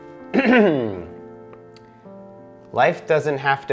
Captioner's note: clears throat